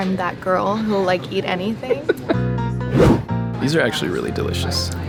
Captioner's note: laughing